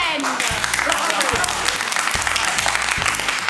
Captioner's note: applause